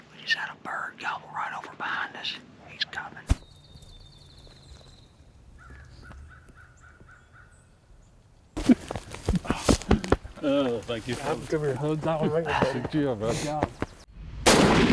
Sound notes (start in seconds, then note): 0.2 whispers; 4.2 birds chirp